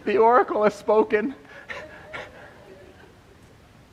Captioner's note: laughter